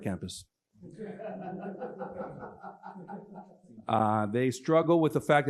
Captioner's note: laughter